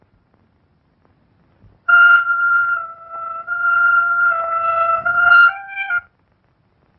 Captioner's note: speaking in foreign language; siren; pounding